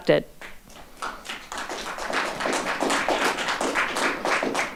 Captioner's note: audience applauding